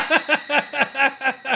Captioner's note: laughs